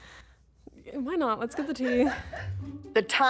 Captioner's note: producer laughs